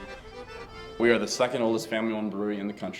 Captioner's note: polka music; voiceover